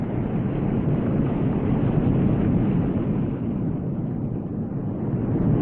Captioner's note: ocean waves rumbling